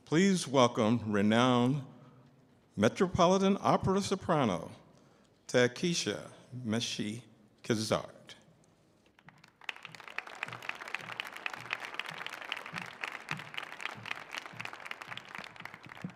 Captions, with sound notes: please welcome renowned metropolitan opera soprano, Takesha Meshe Kizart. (audience applauding) (audience cheering)